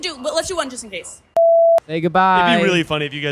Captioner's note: beep